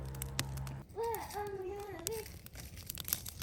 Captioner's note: chattering